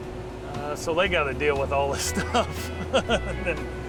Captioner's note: laughing